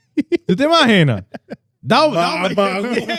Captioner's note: speaking Spanish